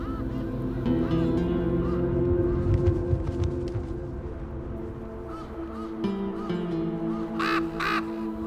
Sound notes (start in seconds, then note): 0.0 ravens cawing; 0.0 ominous music continues